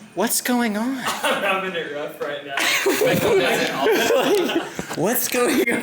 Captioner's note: laughs